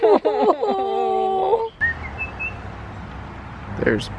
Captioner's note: whistling